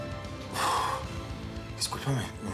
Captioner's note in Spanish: soplido